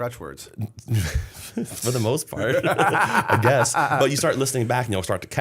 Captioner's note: laughter